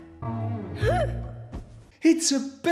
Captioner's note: the sound of a pillow hitting the ground